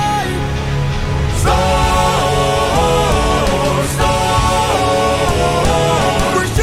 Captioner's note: storm